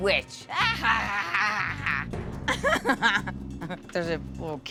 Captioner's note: cackles